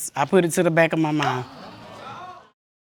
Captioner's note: audience groaning